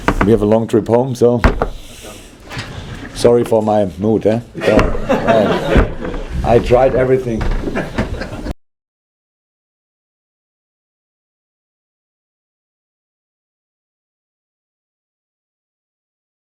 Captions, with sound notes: we have a long trip home so Sorry for my mood, eh? jj(general laughter) I tried everything!